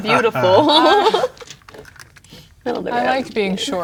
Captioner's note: laughs; pieces clattering